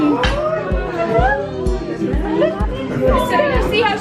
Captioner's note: chattering